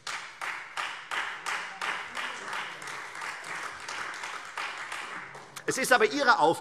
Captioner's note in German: Beifall Freie Demokraten und vereinzelt SPD - Zuruf SPD